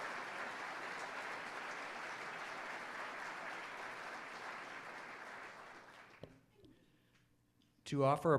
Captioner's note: applause